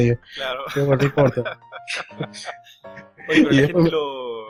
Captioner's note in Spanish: risas